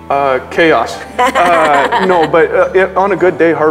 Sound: laughs

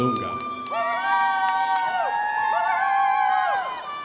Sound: crowd applauding

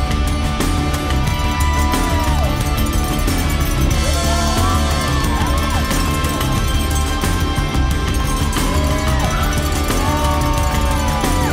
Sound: cheering

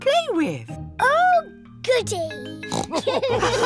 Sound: oinks; all laugh

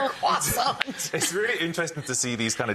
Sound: woman laughing

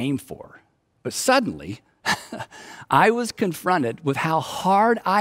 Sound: chuckles

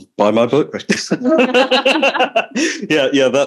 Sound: laughter

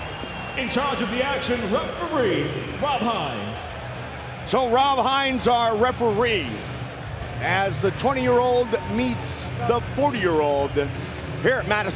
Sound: cheers and applause

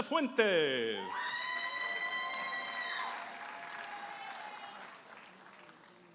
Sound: audience applauding and cheering

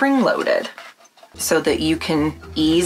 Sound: metal squeaking

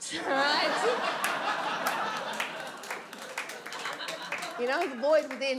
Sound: audience laughs and applauds

